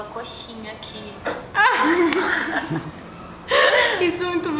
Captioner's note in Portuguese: risos